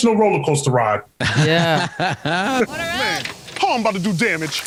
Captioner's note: laughter